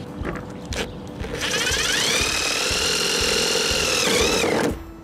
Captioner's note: screwdriver whirring